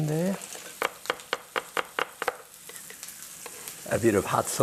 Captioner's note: knife chopping